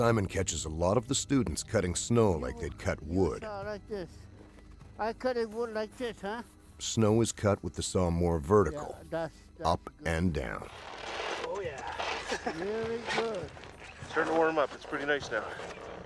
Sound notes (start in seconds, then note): 10.2 voiceover